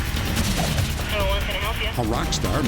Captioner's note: on phone